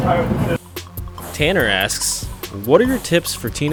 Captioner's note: voiceover